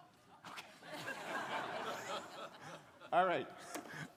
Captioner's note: crowd laughing